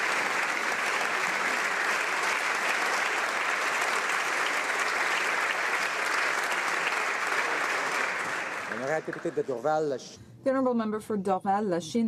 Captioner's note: applause